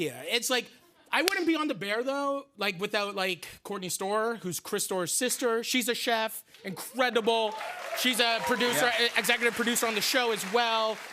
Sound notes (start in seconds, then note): 6.8 cheers and applause